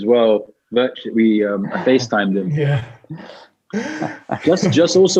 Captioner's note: laughs